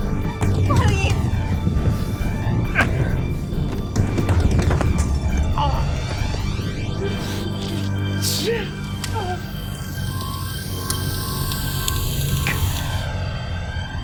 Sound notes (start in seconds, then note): 3.2 slapping; 6.8 exhaling; 9.4 sizzling